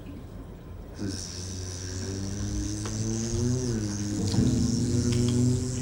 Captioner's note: wasp buzzing